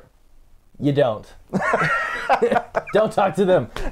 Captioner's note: both laughs